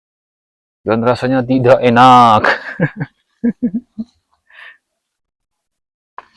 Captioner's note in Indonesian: tertawa